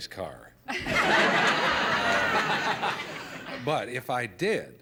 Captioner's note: laughter